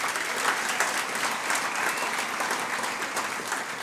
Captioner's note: audience applauds